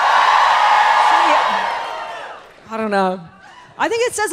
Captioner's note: audience cheers